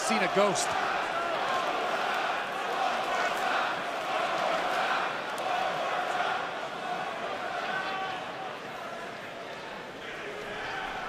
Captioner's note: fans chanting